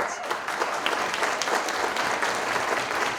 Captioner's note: applause